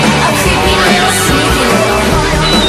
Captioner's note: boing!